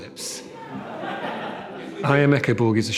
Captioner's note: audience laughs